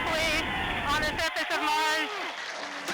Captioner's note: cheering and applauding